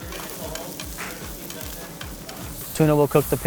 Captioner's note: meat sizzling